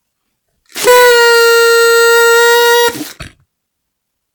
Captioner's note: toooooooooooooot